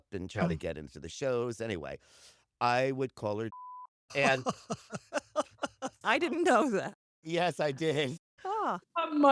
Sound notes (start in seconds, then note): 4.2 laughs